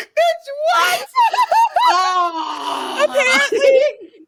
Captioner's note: laughs